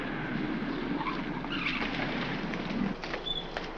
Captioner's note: brake squealing